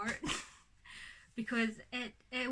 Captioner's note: laughs